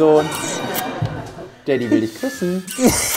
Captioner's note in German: Lachen